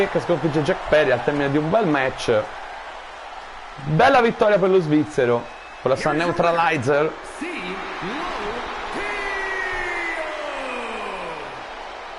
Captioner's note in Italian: Applauso